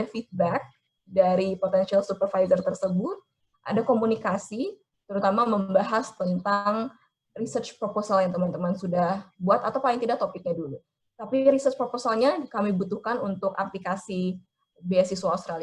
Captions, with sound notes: (speaking in foreign language) feedback potential supervisor (speaking in foreign language) (speaking in foreign language) research proposal (speaking in foreign language) (speaking in foreign language)